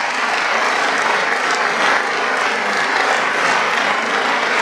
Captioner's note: applause